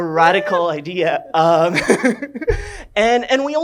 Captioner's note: laughs